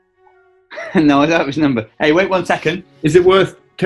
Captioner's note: chuckles